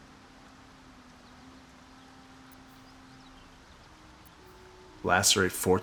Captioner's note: silence